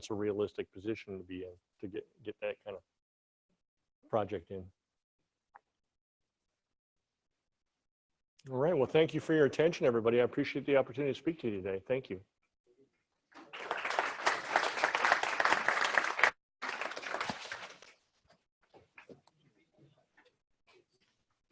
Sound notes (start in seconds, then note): 14.9 audience clapping